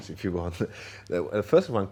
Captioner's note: laughs